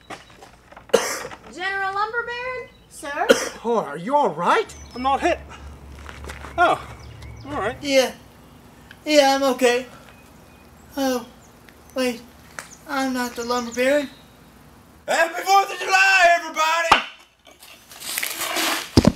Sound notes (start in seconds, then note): 0.8 coughs